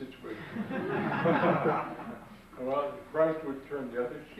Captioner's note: audience laughs